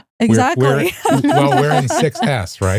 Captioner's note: laughing